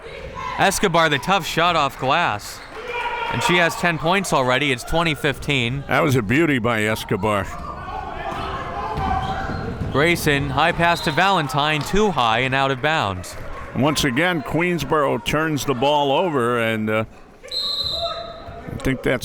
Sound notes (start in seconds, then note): 8.6 crowd members shouting; 17.5 whistle tweeting